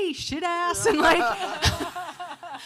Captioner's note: panelists laughing